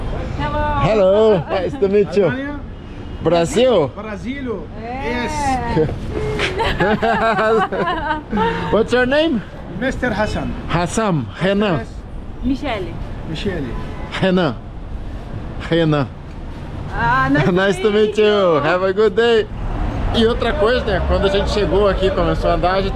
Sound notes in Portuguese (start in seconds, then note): 6.2 Risos